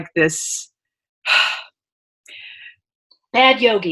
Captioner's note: sighs